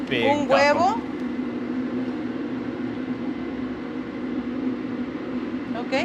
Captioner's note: speaking in foreign language